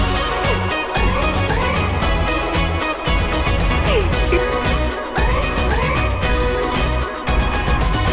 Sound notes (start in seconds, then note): 0.6 laughs; 3.4 upbeat music